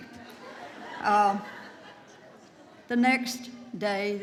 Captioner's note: audience laughs